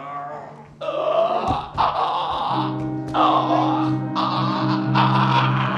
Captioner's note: Noise of Boxer gasping for breath